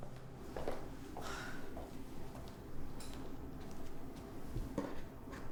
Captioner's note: Hillary sighs